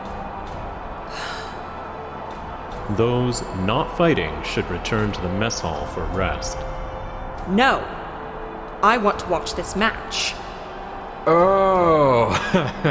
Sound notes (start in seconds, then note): 1.1 sigh